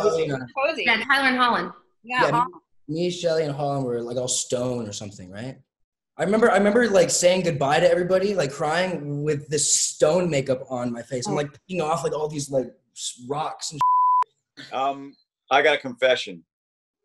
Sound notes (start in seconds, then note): 13.8 beep